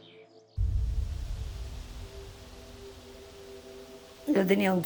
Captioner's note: nature sounds